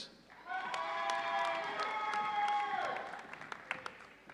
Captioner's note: audience cheering